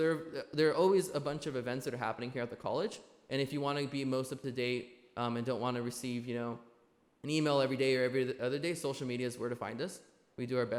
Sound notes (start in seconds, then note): none